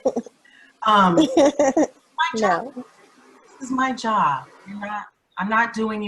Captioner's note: laughs